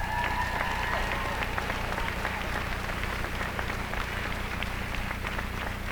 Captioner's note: applause